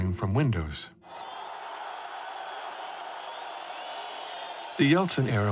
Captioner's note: crowd clamoring